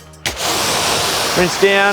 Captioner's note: water splashing